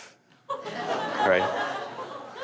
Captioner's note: laughter